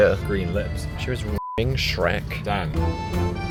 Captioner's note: beep